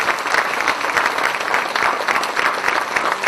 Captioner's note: cheers and applause